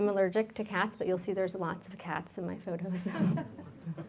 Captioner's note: laughs; audience laughs